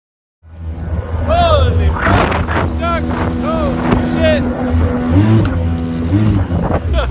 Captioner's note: engine revs over speakers voice